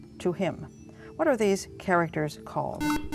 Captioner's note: buzzer